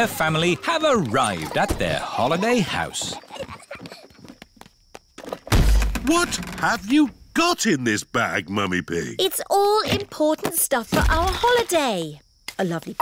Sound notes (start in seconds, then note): 3.8 peppa and george giggling; 5.4 thud